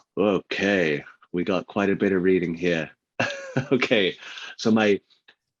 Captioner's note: laughs